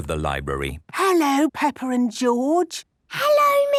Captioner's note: whispering